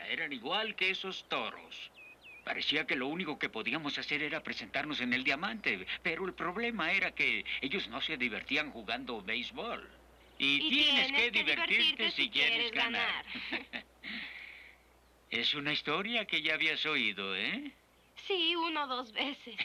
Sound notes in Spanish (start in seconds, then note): 13.2 risas